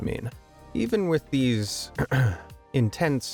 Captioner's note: clears throat